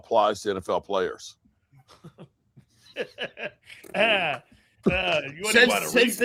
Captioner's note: laughing